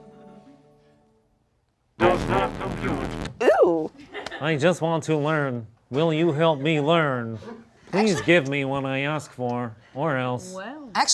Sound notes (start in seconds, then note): 2.0 distorted robotic voice